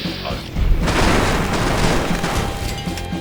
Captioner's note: boom!